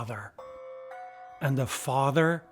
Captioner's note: bells clanging